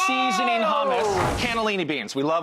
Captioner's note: transition slide whooshing